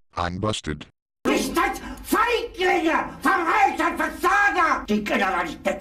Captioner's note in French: criant en anglais clair